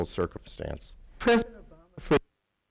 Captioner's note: audio cuts out